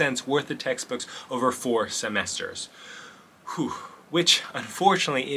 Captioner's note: sigh